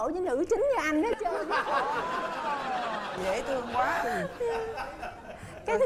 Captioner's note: laughing